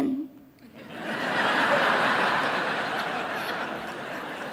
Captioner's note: audience laughing